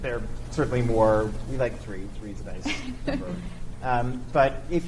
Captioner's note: chuckles